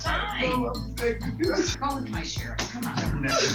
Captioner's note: sobbing indistinctly; whimpering